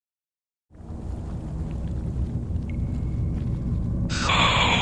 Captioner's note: sounds of dripping water and lava flowing